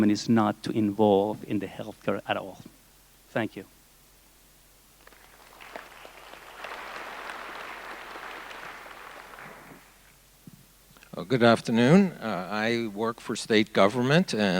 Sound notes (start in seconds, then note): 5.0 audience applauding